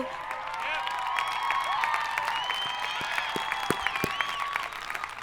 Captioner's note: audience applauding